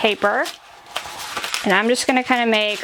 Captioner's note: paper crumpling